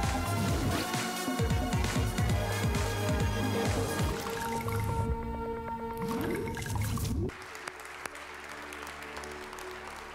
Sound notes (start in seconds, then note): 7.2 applause